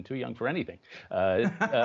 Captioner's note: laughter